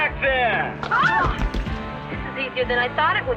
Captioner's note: screaming